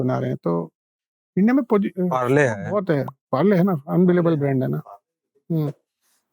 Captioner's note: speaking in Hindi